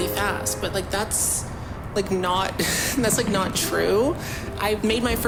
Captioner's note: laughs